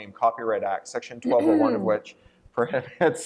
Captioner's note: throat clearing; laughter